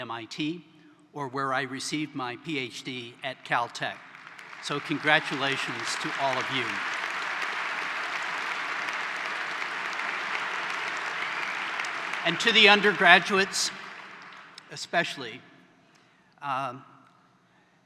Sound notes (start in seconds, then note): 10.2 applause